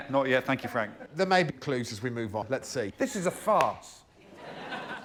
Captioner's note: laughter